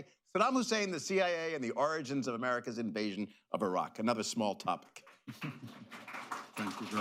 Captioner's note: laughter, applause